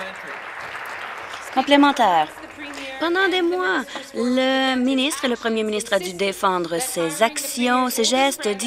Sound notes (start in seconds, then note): 0.0 some Applause